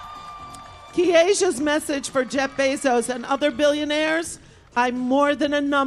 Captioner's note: applause